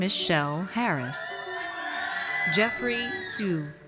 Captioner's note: audience cheers